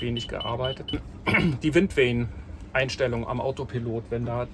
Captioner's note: beeping